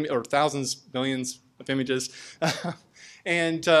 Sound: laughs

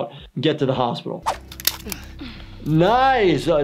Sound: staple gun clicking

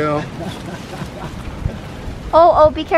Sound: laughter

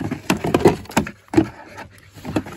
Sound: LUCKY bites the plastic container

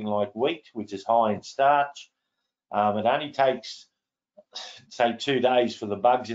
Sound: sighs

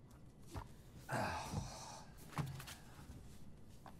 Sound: sighing

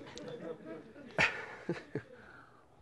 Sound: chuckles

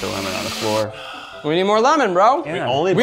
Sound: sighs

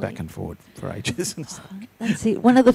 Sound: laughs

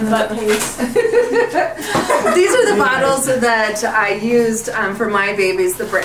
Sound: laughs

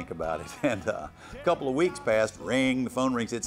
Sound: laughs

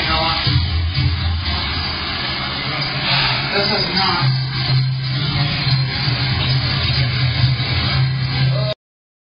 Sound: TV continues to play in background

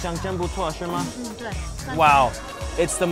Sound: speaking Chinese

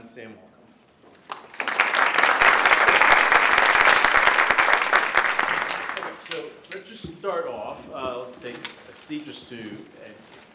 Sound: applause

